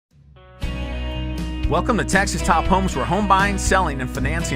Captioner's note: voiceover